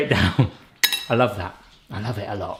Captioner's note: laughs